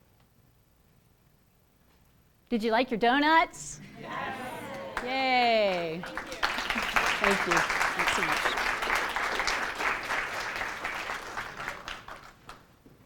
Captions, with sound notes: Did you like your donuts? [cheering] Yay! Thank you, thanks so much. [applause]